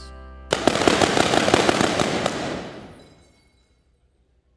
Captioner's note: gunshots